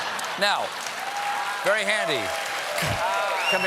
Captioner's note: laughter; applause